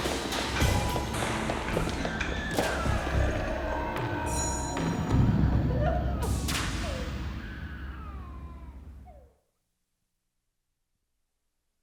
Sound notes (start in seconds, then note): 2.4 baby crying